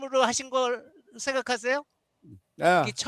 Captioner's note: non-english speech